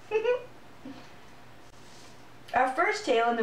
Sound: giggles

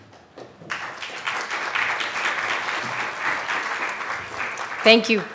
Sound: audience clapping

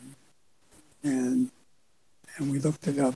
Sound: none

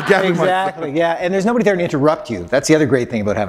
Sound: laughter

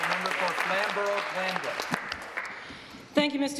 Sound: applause

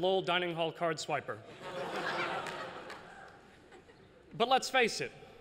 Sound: laughter

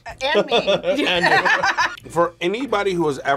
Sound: both laugh

